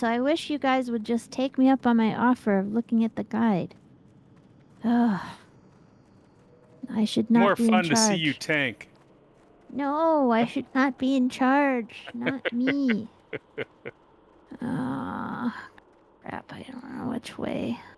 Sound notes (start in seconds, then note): 11.8 laughing